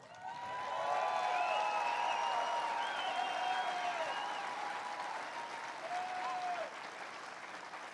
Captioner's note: applause